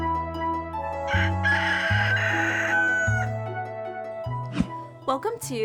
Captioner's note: bright music; rooster crowing